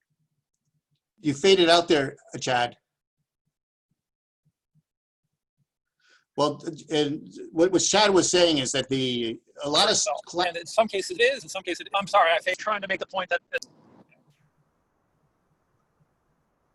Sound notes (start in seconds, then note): 13.2 audio distorts